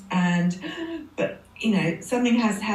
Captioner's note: gasp